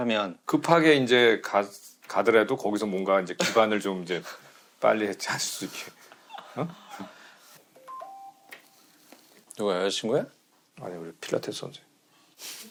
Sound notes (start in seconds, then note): 7.8 beep